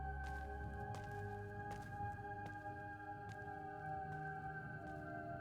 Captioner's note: footsteps patter